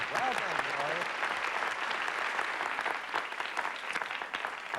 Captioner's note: applause